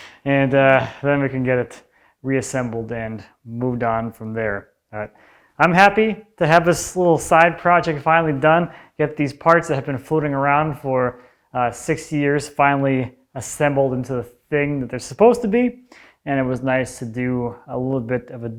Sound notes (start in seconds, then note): none